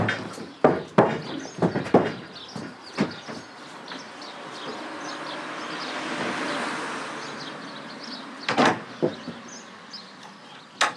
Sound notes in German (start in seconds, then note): 3.4 Vogelzwitschern